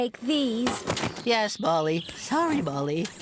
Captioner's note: clank!